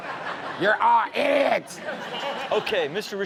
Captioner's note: audience laughing